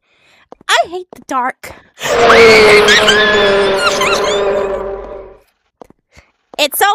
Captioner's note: panic noise